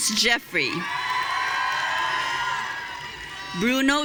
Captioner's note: audience cheering